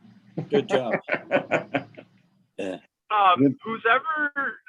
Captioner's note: chuckling